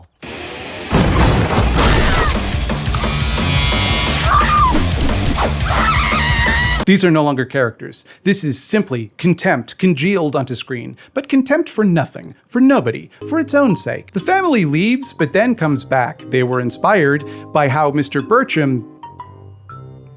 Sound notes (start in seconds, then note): 0.2 heavy metal music; 5.5 Brittany screaming